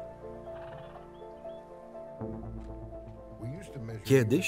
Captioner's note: horse sighs